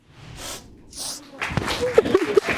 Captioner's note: both sobbing